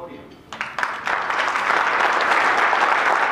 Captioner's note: applause